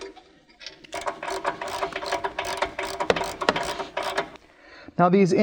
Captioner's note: socket clicking